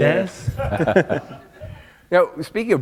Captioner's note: laughter